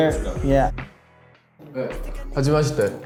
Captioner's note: heart pounding